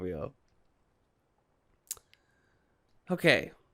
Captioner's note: awkward silence